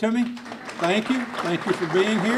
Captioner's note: clapping